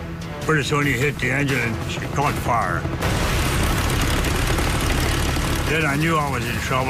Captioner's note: engine sputters